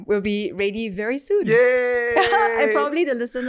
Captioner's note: cheering